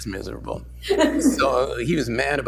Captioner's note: laughter